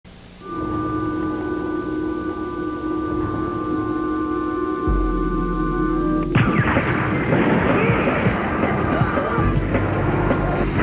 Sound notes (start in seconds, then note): 0.2 eerie noises; 5.8 explosion; 7.5 various grunts